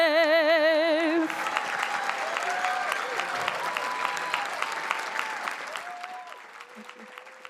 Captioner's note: audience applauding; audience cheering